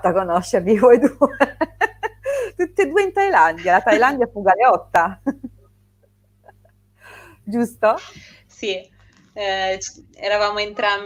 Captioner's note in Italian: risate